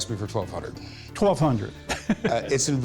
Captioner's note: laughs